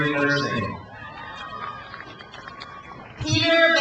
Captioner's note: crowd cheers